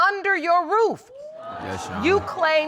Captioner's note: audience exclaiming